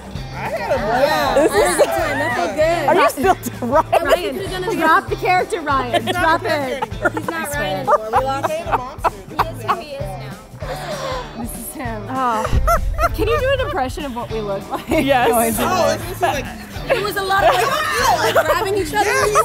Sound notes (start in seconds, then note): 9.0 laughing; 17.4 yells